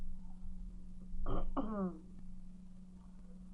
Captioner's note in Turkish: oksürük sesi